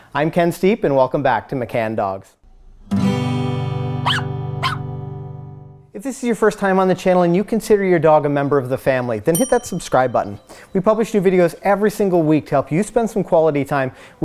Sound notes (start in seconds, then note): 2.4 acoustic guitar music; 4.0 dog barks